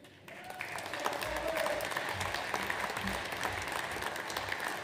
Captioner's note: audience applauds